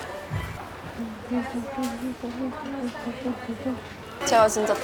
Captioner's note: humming happily